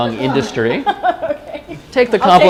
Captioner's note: laughter